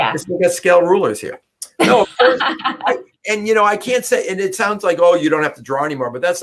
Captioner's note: laughter